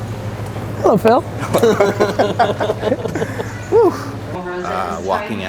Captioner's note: laughter